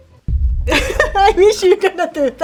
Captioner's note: laughs